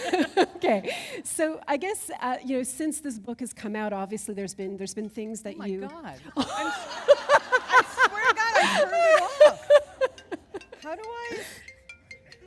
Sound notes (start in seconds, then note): 0.1 chuckle; 6.3 laughter